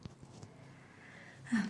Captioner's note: sighs